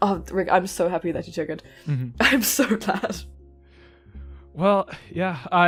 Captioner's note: laughs